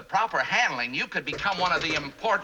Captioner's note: knocking